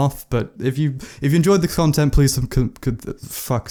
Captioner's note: stutters